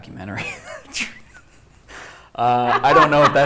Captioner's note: laughter